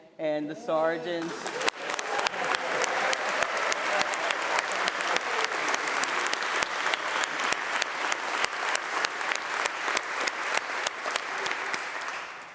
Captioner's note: applause